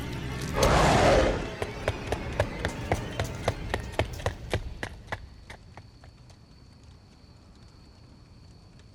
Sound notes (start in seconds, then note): 0.5 werewolf growling